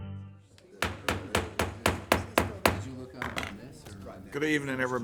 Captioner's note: gavel pounding